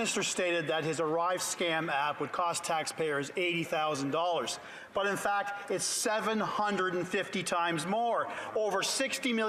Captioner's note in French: voix de l'interprète